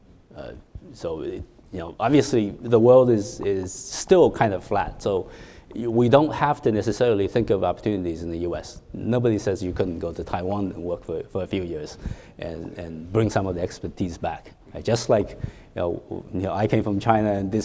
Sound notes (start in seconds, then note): none